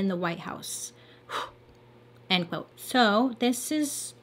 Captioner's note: sighs